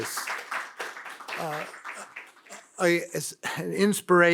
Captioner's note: audience applauds